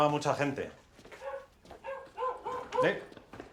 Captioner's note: dog barking